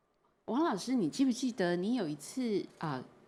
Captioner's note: Mandarin